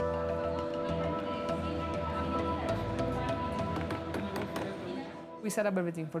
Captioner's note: soft music; people chattering